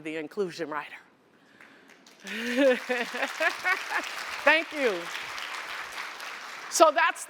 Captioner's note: applause